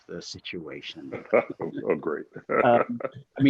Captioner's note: chuckles